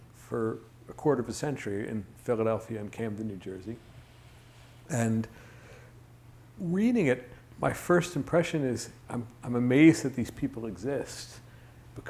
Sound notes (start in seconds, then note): none